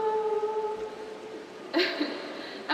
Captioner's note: laughs